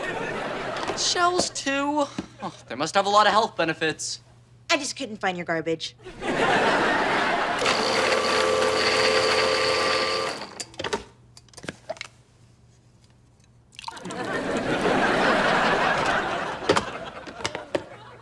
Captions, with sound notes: Shells too? They must have a lot of health benefits. - I just couldn't find your garbage. (audience laughter) (blender whirling) (audience laughter)